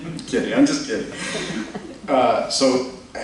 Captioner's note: laughter